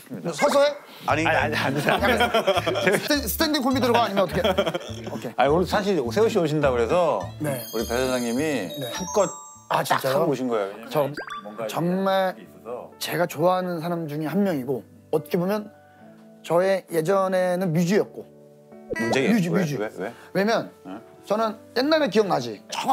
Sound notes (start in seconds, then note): 3.9 laughing